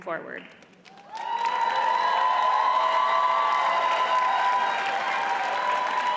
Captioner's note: audience cheers and applauds